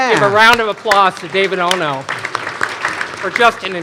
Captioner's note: all applauding